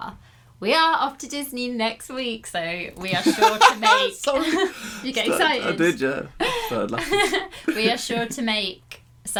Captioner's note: laughing